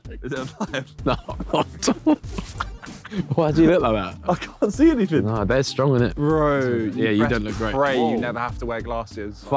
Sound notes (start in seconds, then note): 0.3 laughing